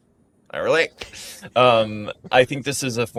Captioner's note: chuckles